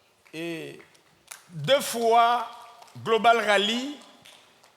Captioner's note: speaking in French